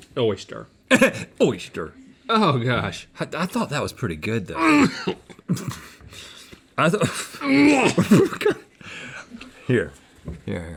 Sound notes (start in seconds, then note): 4.5 coughing; 6.9 chuckling